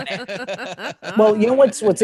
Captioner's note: laughing